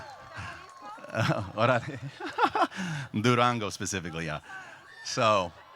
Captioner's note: laughs